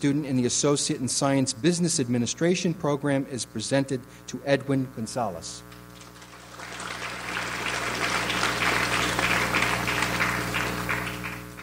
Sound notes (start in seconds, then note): 5.9 audience applauds